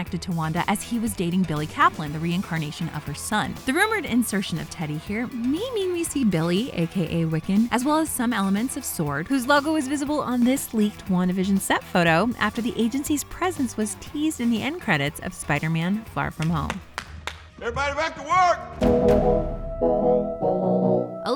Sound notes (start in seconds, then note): 16.3 clapping